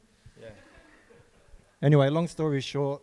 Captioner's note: group laughing